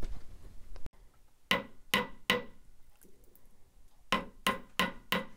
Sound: hammering

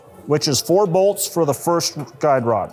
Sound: none

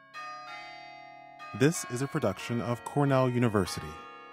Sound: bells chiming

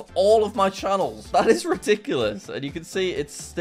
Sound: chuckles

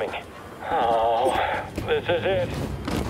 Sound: sighs

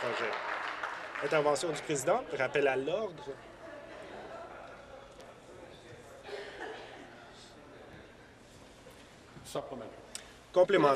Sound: applause

